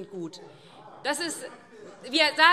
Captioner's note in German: Zurufe: Aha!